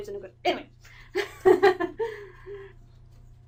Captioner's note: Amylin laughs